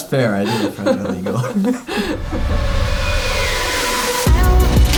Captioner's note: laughing